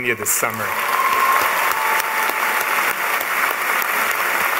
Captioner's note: applause